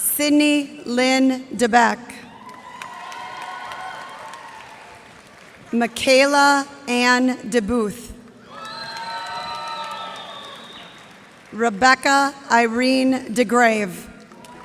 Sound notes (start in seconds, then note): 2.3 cheers and applause; 8.4 cheers and applause